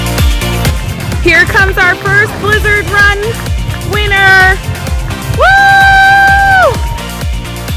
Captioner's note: cheering